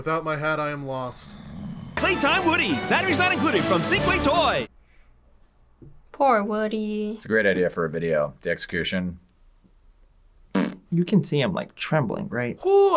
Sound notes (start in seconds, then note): 10.5 blows raspberry